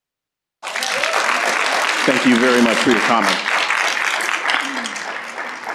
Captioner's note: applause